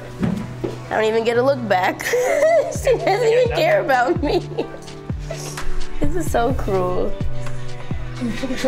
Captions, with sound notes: I don't even get a look back. (laughs) She doesn't even care about me. Kids are so cruel.